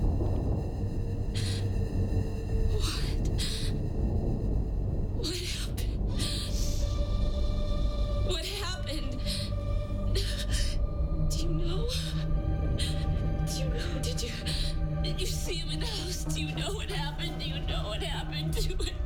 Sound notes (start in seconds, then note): 2.3 crying